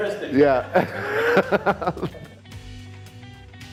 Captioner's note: chuckles